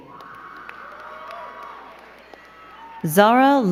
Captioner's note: crowd cheering and clapping